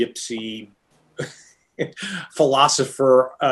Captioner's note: laughing